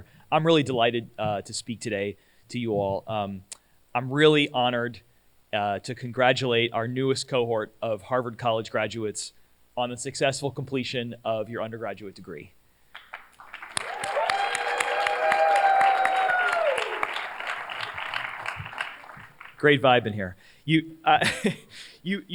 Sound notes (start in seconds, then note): 13.3 cheers, applause